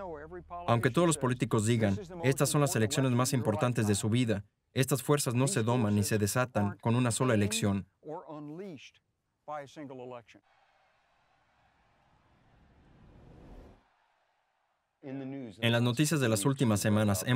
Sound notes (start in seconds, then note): 13.7 audience cheering